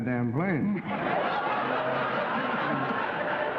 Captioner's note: laughing